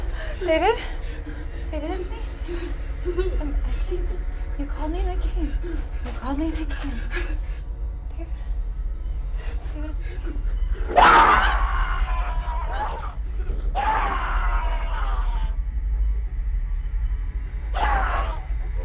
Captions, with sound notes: David? David, it's me. You called me and I came. You called me and I came. David? David, it's me. (David screams)